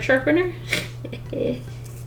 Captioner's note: laughs mischievously